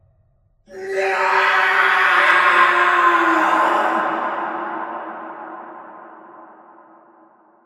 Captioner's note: Scott’ scream